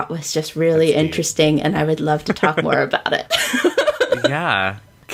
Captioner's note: laughs